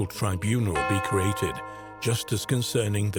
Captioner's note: bell dinging